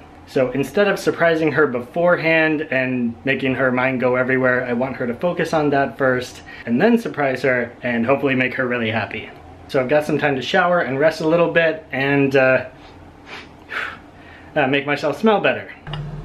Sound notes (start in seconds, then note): 13.2 sniff